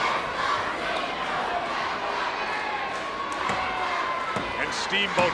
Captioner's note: audience cheering